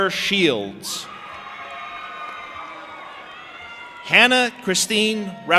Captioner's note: audience applauding and cheering